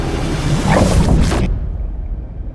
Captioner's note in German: glitching